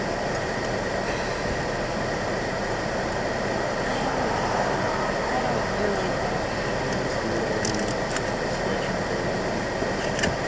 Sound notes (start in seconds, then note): 3.8 sighs